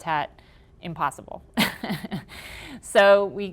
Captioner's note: laughing